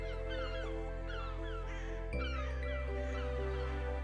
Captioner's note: seagulls cawing